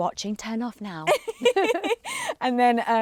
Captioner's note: laughs